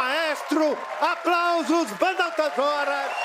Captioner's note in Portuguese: aplausos